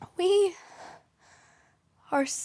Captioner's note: soft breathing